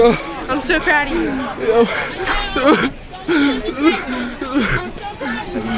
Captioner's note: crying